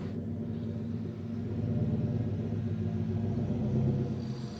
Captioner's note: truck rumbling